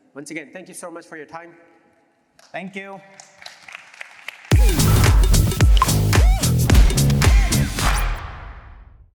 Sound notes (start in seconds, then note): 3.0 applause